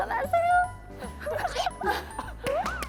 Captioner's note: sob